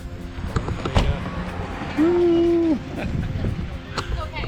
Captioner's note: laughs